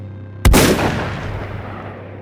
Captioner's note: gunshot